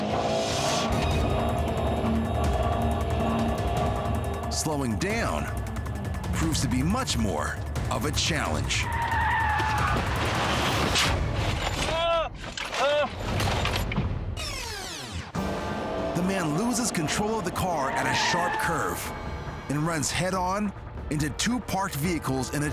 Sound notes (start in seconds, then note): 0.2 car engine revs; 8.3 tires squeal